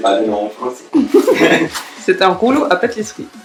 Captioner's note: both laughing